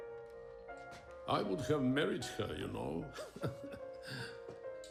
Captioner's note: chuckles